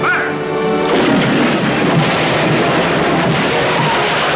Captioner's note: cannon booming; explosion